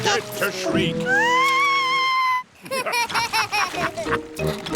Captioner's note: shrieks; laughter